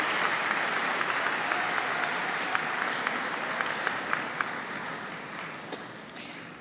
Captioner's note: applause